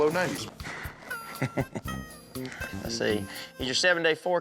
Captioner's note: chuckles